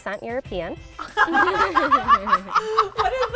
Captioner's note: laughs